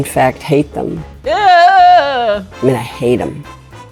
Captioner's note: actress exclaiming